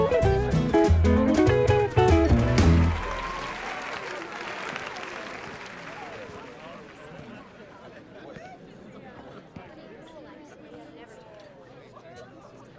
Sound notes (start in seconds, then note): 3.0 audience applauding; 3.0 crowd cheering